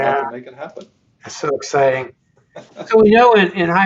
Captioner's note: laughs